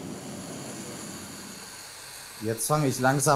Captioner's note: hissing